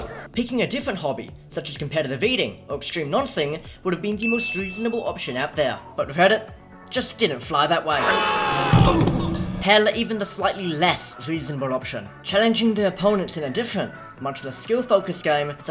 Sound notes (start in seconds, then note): 8.0 screaming; 8.8 thud